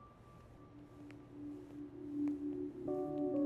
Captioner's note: Footsteps approaching